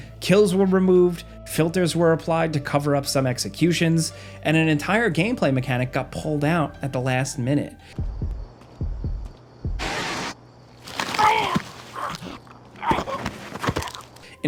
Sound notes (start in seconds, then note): 9.9 audio distorts; 11.2 man choking